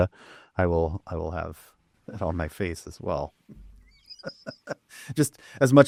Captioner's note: laughs